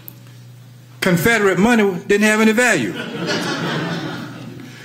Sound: audience laugher

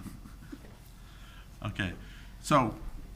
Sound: people chuckling

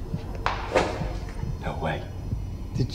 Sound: objects dropping

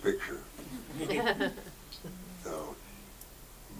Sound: audience chuckles

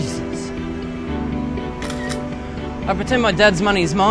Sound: camera click

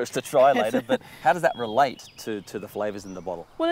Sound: laughing

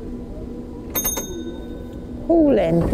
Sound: ding!

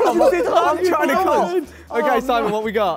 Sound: Sidemen laugh

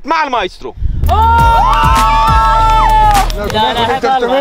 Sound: cheering

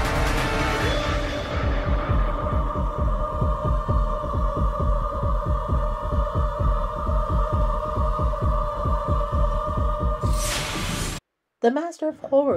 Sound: music fades, heartbeat

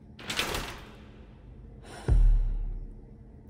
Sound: breathes out

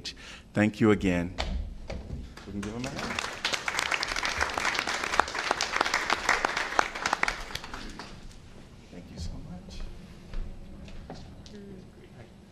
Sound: applause

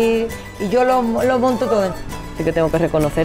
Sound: speaking spanish

